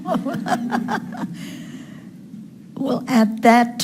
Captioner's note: laughing